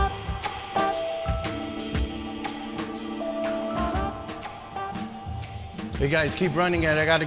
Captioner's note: phone ringing